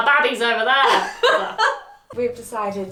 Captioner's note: laughing